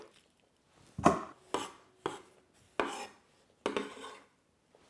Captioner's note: knife scraping